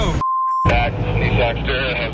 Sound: man On Radio

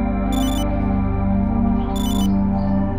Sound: ear-comm continues to beep

